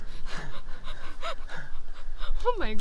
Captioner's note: laughter